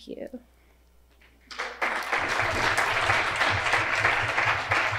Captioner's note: audience claps